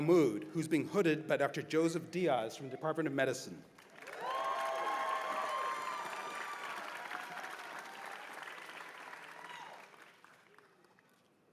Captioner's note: cheers and applause